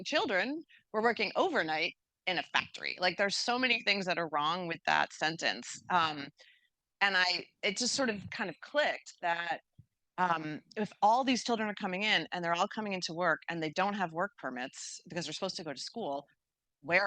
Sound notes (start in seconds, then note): none